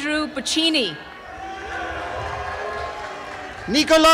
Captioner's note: applause and cheering